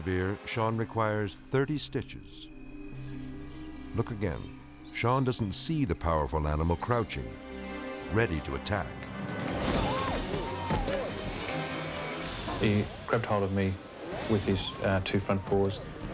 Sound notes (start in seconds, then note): 9.4 person yelps; 10.4 grunts